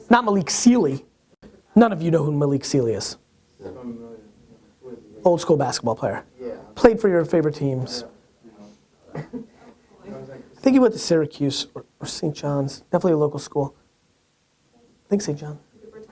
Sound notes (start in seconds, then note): 6.5 voiceover; 8.1 voiceover; 9.8 talking quietly